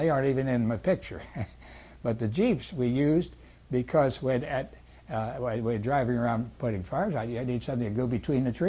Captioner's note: laughs